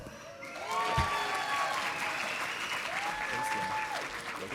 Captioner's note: audience applauding